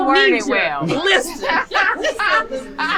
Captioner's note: woman laughing